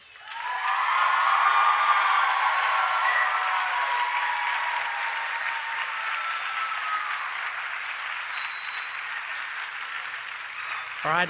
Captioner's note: cheering and Applause